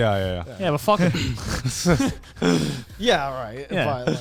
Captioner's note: chuckles